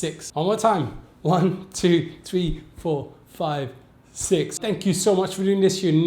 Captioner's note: laughs